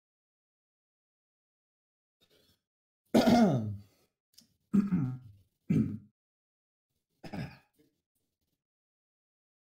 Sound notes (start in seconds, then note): 3.1 throat clearing